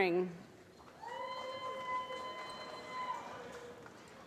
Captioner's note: applause